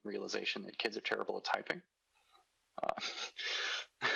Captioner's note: chuckles